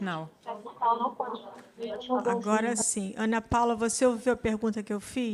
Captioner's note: speaks Language